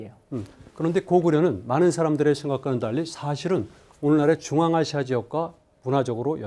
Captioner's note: speaking in Korean